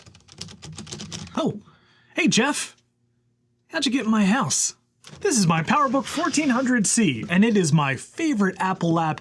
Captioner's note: furious typing sounds